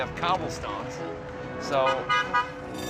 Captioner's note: horn honking; car bell ringing